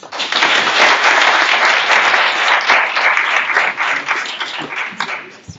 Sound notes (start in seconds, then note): 4.6 applause